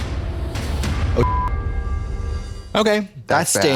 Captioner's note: beep